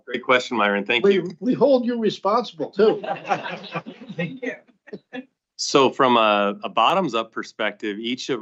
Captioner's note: laughter